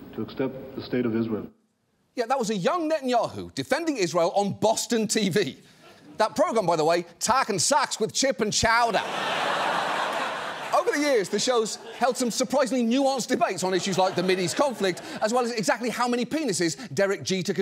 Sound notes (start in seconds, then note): 8.9 audience laughs